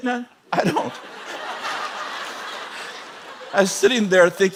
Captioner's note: laughing